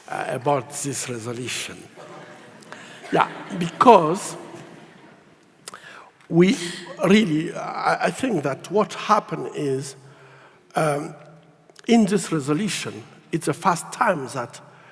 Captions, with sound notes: about this resolution. (audience laughs) Yeah, because we really, I think that what happened is in this resolution, it's the first time that